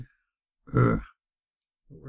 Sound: grunts

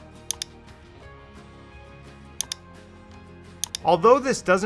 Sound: mouse clicking

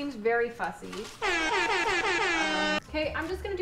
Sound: horn blaring

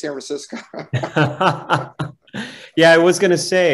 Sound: laughing

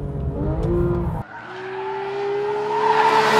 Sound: gt3 engine

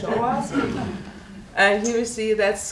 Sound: audience laughing

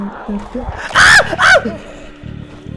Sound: screams

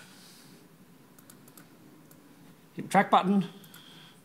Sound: clicking

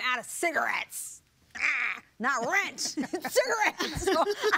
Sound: bleats; laughter

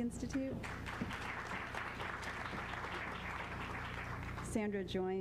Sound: applause

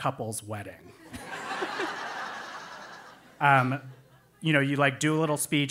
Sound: laugh

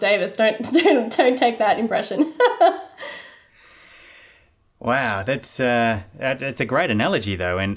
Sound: laughing

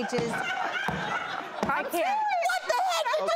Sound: loud laughter

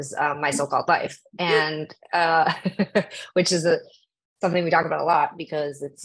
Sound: laughs

